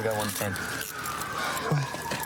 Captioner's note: sirens grow louder